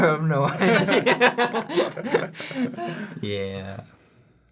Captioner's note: laughter